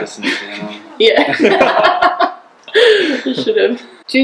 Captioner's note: laughter